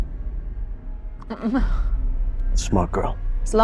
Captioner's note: chuckling